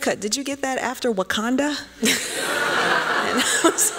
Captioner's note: laughter